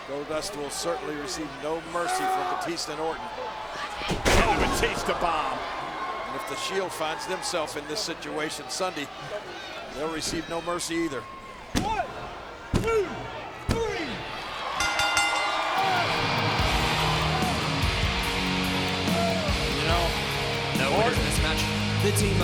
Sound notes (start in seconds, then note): 14.7 bell rings; 15.8 dramatic music